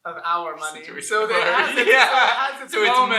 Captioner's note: laughter